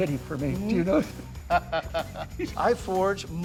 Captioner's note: laughing